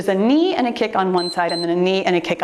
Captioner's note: timer beeps